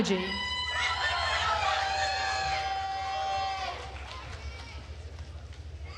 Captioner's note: attendees cheering and applauding